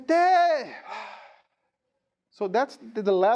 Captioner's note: sighing